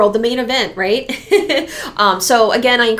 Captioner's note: laughs